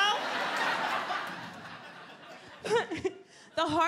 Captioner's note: audience laughs